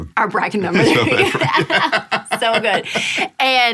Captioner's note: laughing